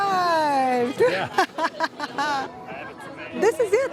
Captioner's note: laughs